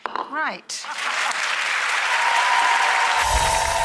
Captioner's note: applause